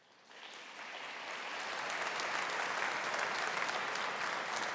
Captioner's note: audience applauding